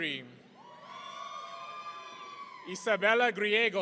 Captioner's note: audience cheering